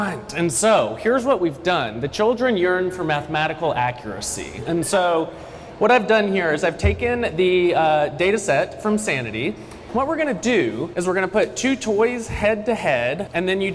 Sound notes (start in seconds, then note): none